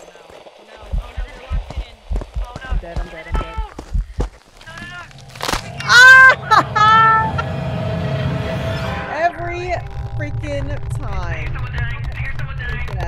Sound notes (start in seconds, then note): 4.0 laugh